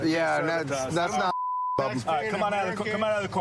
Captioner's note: chatter